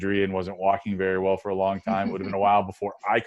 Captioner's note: laughs